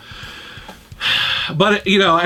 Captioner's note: sighs